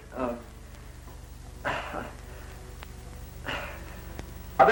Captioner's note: laughs nervously